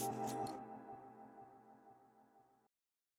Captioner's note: music stops